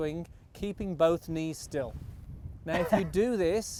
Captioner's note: laughing